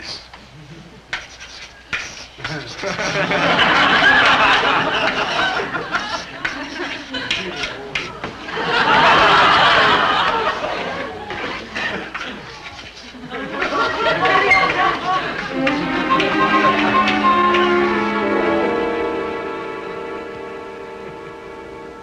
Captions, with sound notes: - Swordfish, my weakness. (chalk tapping) (audience laughing) (pleasant music)